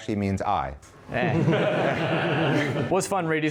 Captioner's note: laughing